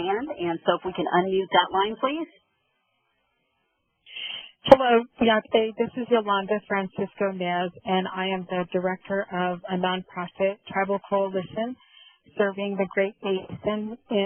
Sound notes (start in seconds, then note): 4.9 speaking in Native language